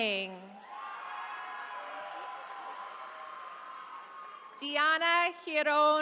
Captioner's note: attendees cheering